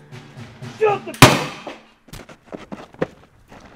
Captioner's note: gunshot blasting